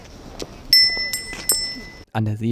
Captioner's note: bell